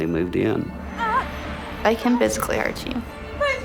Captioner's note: groaning in pain